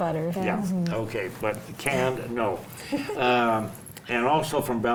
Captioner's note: laughs